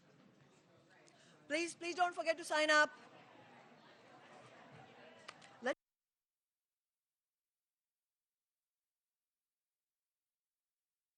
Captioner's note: applause